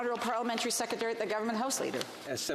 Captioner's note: speaking French